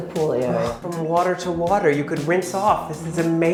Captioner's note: groans